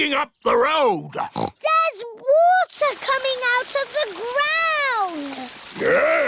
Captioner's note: oinks